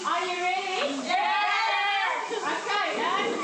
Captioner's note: girls in unison